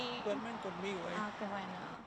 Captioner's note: speaking in Spanish